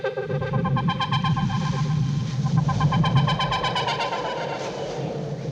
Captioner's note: wind whistling